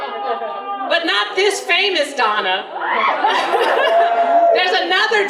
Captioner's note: general laughter